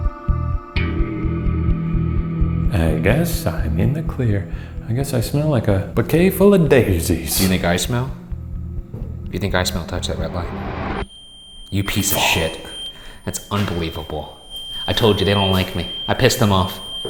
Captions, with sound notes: (low eerie music continues) - I guess I'm in the clear. I guess I smell like a bouquet full of daisies. - Do you think I smell? If you think I smell, touch that red light. (REM pod screeching) You piece of shit. - Fuck. - That's unbelievable. I told ya, they don't like me. I pissed them off.